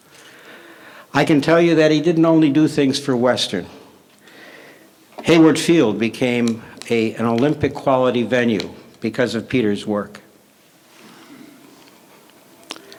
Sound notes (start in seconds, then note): none